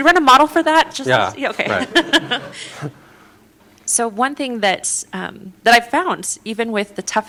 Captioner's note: laughter